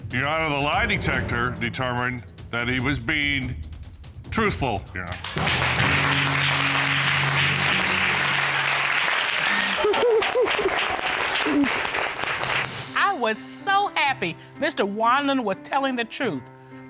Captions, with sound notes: that he was being truthful, Your Honor. [applause] [laughs] I was so happy Mr. Wanland was telling the truth, but was it enough to repair their marriage?